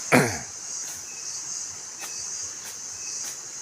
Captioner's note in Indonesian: berdehem